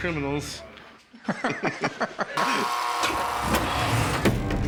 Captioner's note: laughter